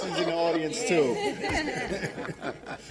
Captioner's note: laughter